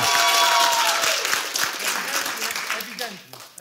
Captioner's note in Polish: oklaski publiczności